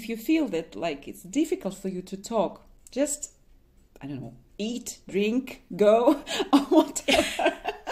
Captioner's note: laughs